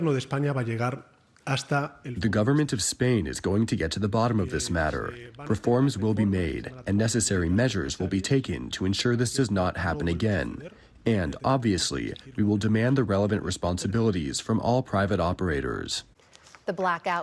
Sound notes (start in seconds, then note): 2.5 through translator